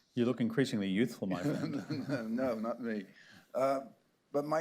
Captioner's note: laughter